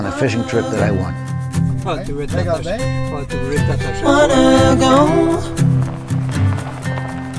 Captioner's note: chatter